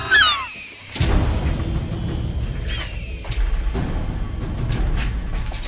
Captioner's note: gull squawking; thunder thumping